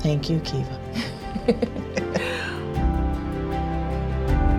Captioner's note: both chuckle